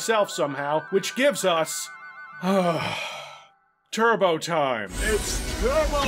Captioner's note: sigh